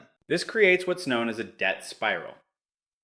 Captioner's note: none